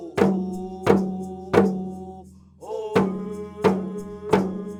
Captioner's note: chanting continues